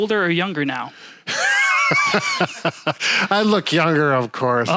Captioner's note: laughing